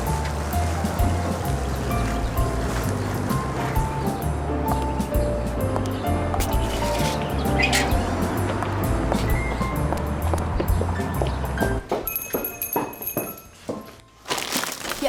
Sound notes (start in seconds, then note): 10.2 footsteps; 12.0 doorbell jingles